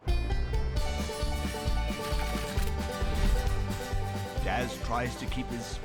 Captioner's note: fast-paced music; destination board clacking